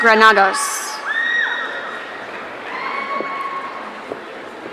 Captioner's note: audience cheering